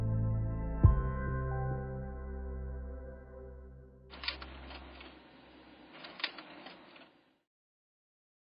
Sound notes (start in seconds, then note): 0.0 somber music fades; 4.1 film projector clacking